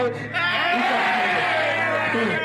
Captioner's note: crowd cheers